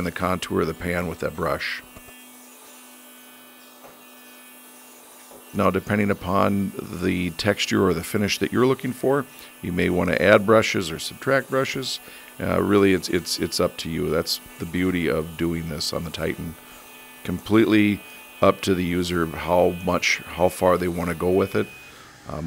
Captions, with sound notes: the contour of the pan with that brush. (Titan buzzing) Now, depending upon the texture or the finish that you're looking for, you may want to add brushes or subtract brushes. Really, it's up to you. That's the beauty of doing this on the Titan. Completely up to the user how far they want to go with it.